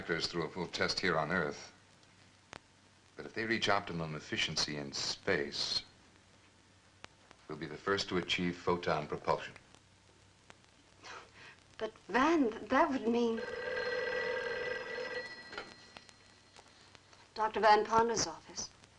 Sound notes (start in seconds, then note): 10.7 Sybil laughs; 13.2 phone rings